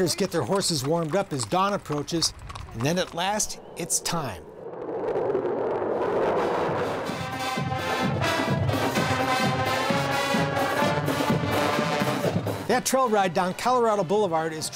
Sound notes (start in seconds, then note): 3.4 B-2 stealth bomber engine roaring; 6.8 marching band music